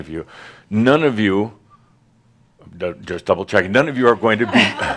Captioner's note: some laughter